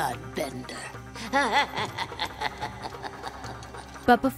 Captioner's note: laughing